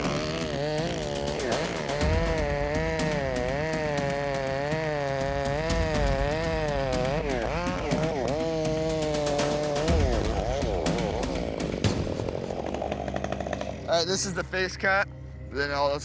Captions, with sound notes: (buzzing chainsaw) - All right, thisis the .